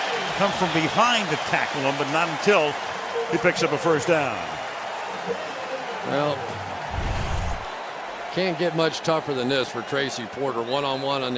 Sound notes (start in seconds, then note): 5.0 cheering